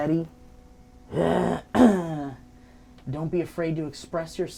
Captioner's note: clears throat